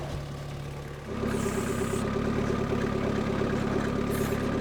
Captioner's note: engine roaring